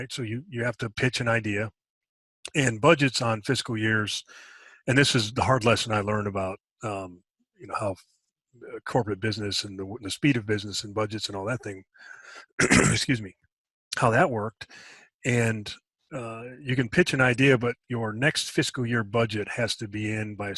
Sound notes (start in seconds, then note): 12.5 clears throat